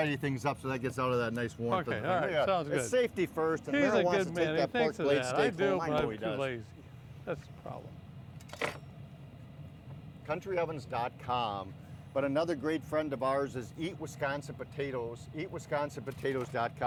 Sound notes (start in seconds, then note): 8.4 utensils clanking